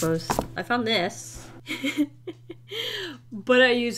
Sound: laughs

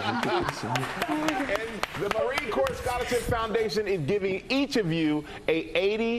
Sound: applause

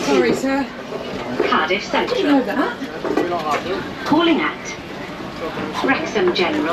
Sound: automated announcement in background

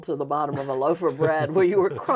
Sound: both laughing

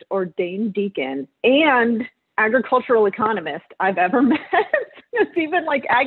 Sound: laughs

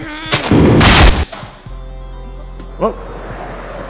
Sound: explosion

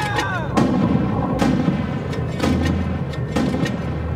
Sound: mortars boom

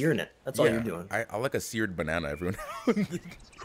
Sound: laugh

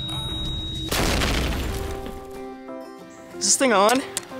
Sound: explosions

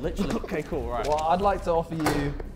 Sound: Sidemen laughing

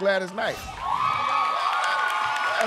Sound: cheers and applause

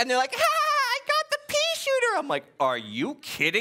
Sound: laughing

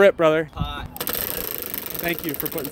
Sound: wheel whirring

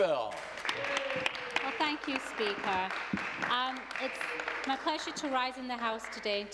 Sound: some Applause

